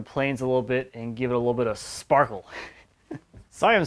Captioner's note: laughs